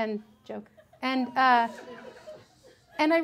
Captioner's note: women giggle